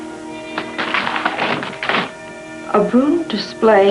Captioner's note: paper crinkling